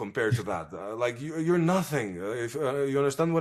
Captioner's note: laughs